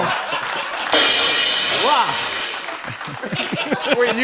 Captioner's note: laughter